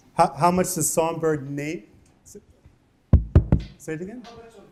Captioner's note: none